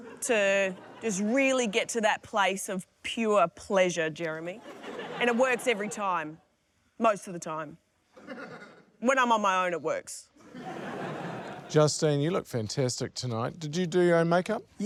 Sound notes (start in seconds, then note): 4.5 laughter; 8.2 laughter; 10.4 laughter